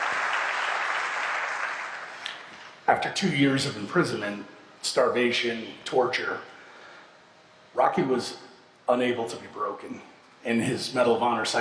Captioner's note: applause